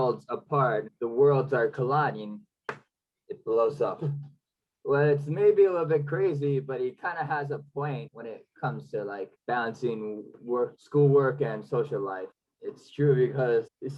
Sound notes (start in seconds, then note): 2.6 clap